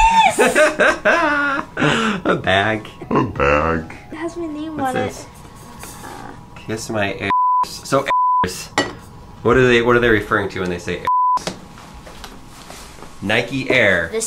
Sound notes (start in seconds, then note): 0.0 laughter; 7.2 bleeping sound; 11.1 bleeping sound